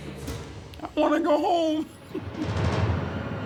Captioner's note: chuckles